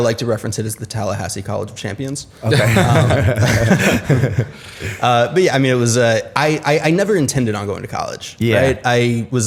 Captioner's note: laughter